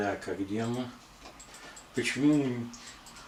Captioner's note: сomputer mouse clicks